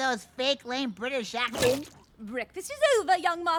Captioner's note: gulp